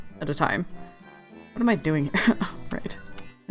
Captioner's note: laughs